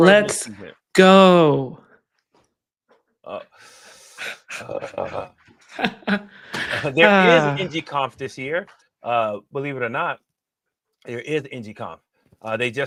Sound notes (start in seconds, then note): 4.3 chuckles